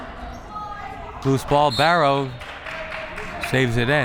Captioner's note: whistle